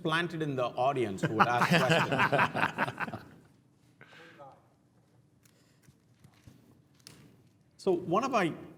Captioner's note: laugh